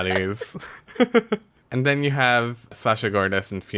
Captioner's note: laughs